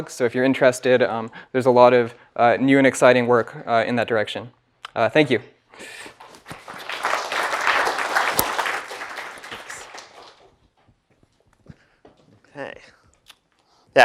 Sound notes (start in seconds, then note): 6.2 applause